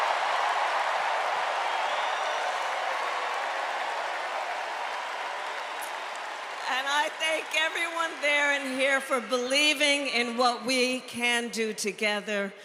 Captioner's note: cheers and applause